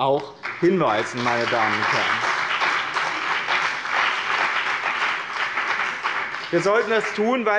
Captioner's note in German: Beifall bei dem BÜNDNIS 90/DIE GRÜNEN und bei Abgeordneten der CDU